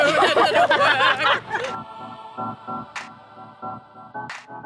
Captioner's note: group laughing